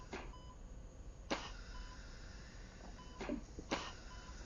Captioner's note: ventilator running rhythmically